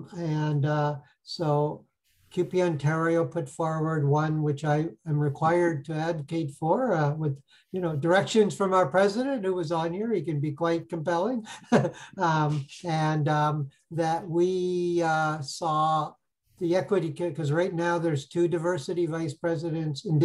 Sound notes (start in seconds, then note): 11.5 laughs